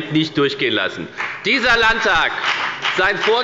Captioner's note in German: Beifall bei der FPD